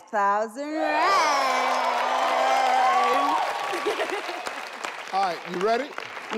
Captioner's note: audience cheering; audience applauding